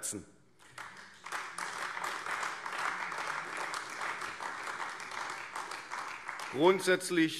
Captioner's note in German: Beifall AfD